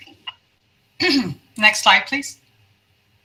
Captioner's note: clears throat